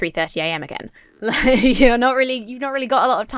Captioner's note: laughs